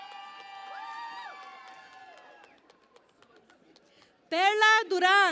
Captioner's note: cheering and Applause